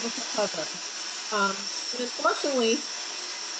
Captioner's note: quadcopter whirring loudly